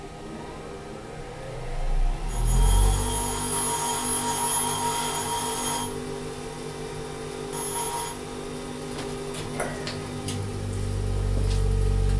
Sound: bench grinder sound

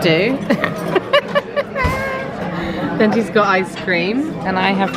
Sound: laughing

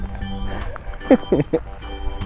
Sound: laughs

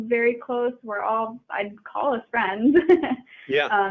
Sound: chuckling

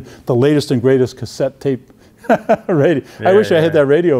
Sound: chuckling

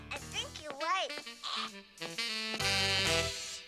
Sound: exclaims

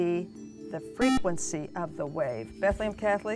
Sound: buzzer

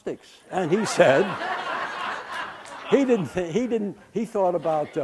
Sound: background laughter

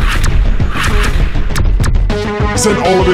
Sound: shots firing

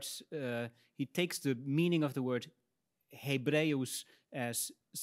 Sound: speaks in Latin

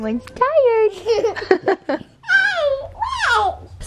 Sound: laughing

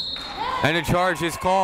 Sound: whistle blowing

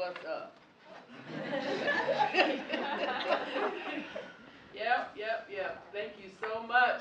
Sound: laugh

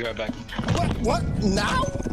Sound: audibly leaves microphone

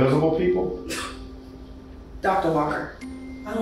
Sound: Kate chuckles

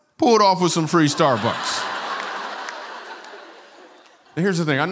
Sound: laughter

